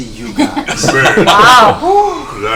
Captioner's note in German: Gelächter